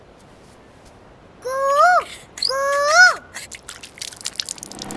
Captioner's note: mimicking cuckoo's voice